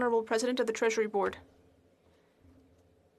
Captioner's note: speaking French